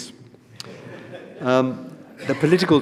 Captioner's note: audience laughs